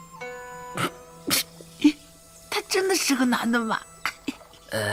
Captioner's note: sneezing